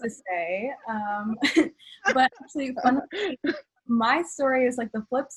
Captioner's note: laughs